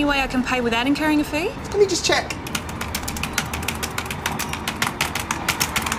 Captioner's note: typing